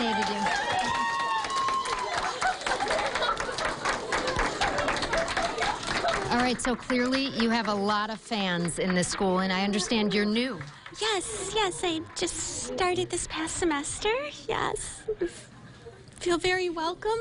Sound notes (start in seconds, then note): 5.6 clapping